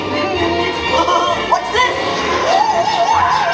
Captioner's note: laughs